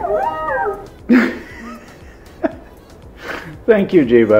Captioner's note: cute sound effect; laughs